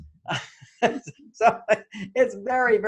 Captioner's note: laughs